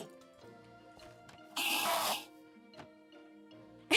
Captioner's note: awful enderman sound; enderman sound; laughs